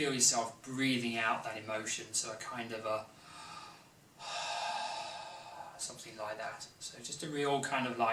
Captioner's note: exhale breath